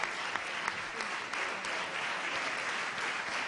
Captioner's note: cheers and applause